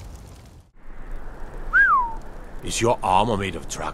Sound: whistle

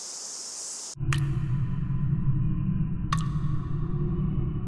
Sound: water drops echoing

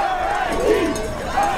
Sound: cheering

